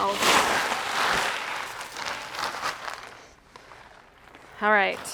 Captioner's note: sack rustling